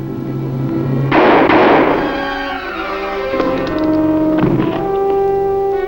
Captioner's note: gunshot firing